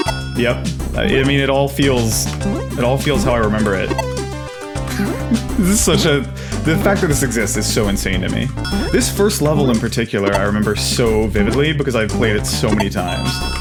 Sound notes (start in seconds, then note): 4.6 laughs